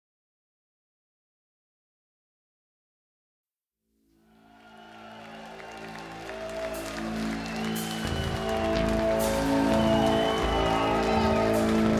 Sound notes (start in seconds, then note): 4.2 audience cheering loudly